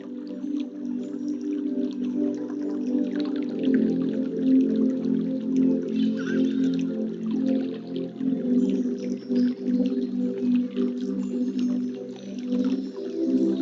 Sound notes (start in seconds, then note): 0.1 uplifting music; 6.7 birds chirping